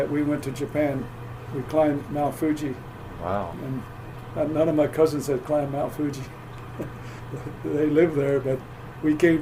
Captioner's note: laughs